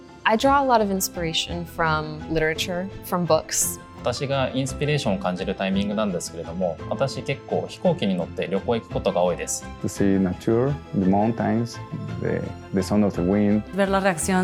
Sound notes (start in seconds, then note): 4.0 non-english speech; 14.2 non-english speech